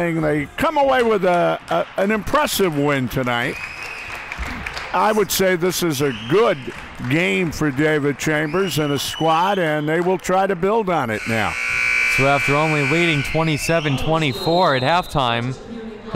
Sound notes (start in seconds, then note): 3.4 clapping